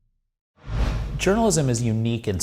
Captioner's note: air whooshing